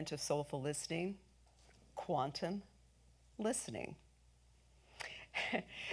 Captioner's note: chuckles